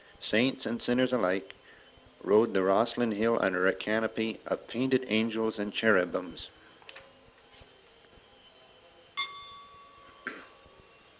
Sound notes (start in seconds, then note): 9.2 bell sound